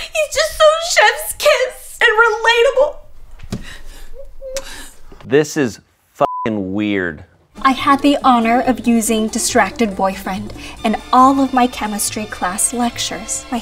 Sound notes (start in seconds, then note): 4.2 kiss; 6.2 beep